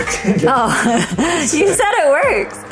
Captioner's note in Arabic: أمي تضحك